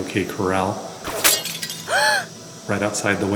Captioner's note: SFX: Gunshot, window breaking, and woman gasping